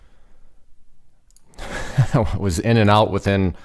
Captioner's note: laughs